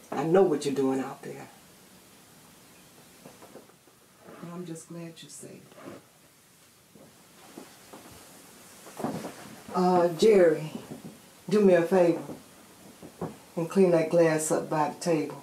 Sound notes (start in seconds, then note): none